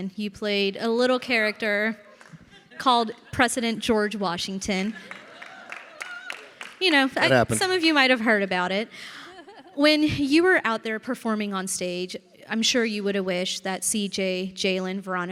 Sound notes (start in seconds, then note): 4.9 audience applauding